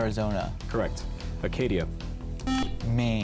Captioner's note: buzzer